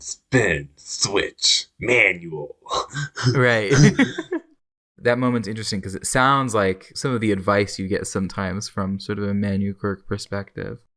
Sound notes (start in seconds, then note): 3.6 laughs